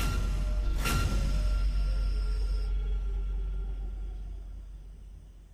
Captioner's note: intense music; crickets chirping